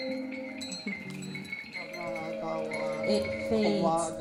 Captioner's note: chimes clattering